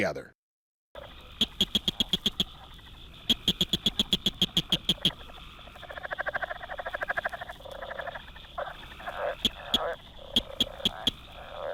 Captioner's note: blanchard’s cricket frog call